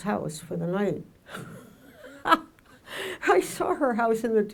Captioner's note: laughs loudly